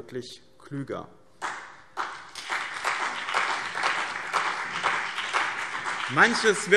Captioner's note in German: Beifall BÜNDNIS 90/DIE GRÜNEN und CDU